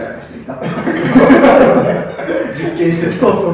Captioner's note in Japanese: 爆笑